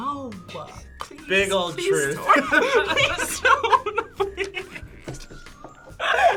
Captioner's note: laughs